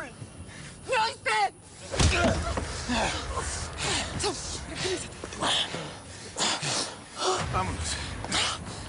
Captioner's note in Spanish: Puñetazo fuerte y ruido al caer; Saúl jadea